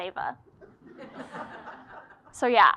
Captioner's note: laugh